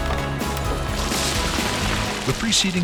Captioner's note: rocks clatter